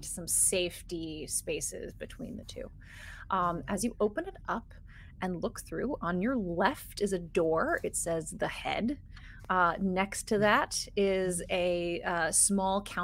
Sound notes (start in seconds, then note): none